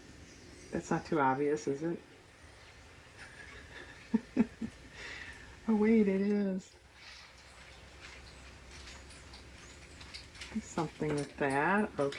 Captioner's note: laughs